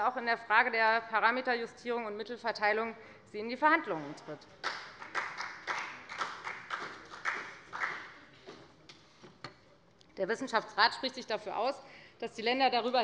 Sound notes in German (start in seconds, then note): 4.6 Beifall bei der FDP